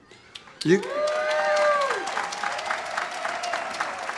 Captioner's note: audience cheers